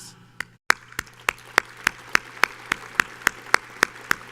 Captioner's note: audience applauds